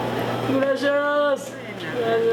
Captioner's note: in Spanish